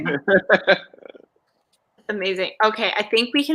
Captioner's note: laughs